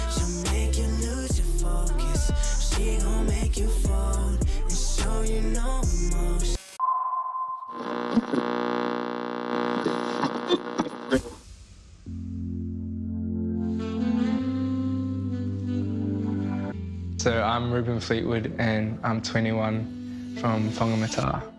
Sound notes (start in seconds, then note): 6.5 music stops abruptly, radar pings, radio whirrs, distorted chatter; 12.3 soft music